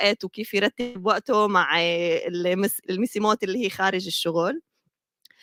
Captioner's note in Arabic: لغة أجنبية